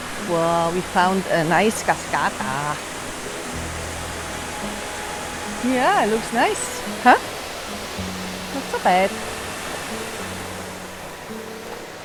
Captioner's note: waterfall